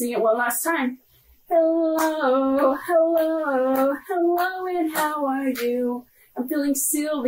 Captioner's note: clapping